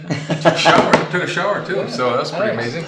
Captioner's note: laughing